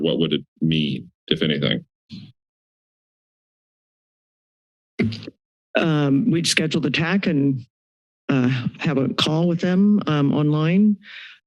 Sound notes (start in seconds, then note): 2.2 silence; 5.0 mic thump